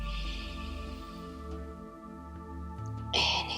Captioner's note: inhales deeply